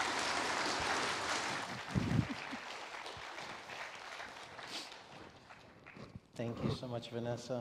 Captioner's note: audience applauds